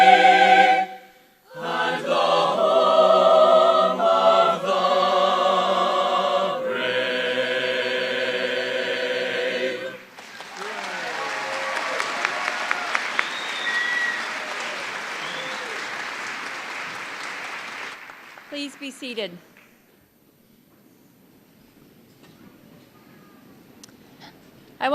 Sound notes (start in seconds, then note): 10.1 cheers and applause